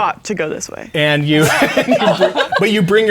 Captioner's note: players laughing